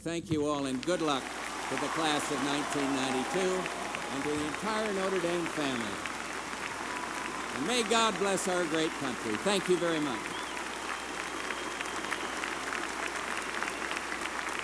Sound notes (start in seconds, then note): 5.7 applause; 9.7 applause